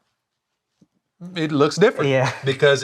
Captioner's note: laughs